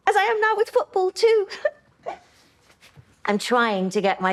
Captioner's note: she giggles